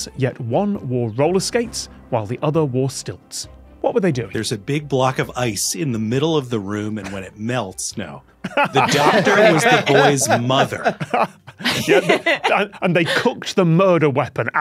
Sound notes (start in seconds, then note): 8.4 others laughing